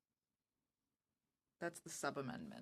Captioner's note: speaking French